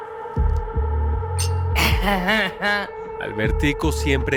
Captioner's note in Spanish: Tintineo de copas